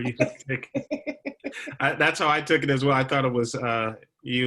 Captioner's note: laughter